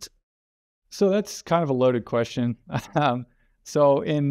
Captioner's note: laughs